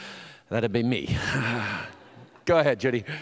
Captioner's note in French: soupir